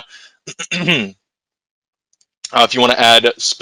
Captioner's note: clears throat